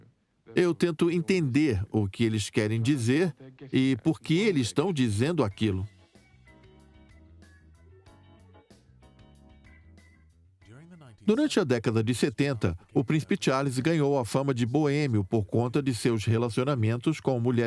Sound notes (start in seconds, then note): 5.9 upbeat music; 9.8 voiceover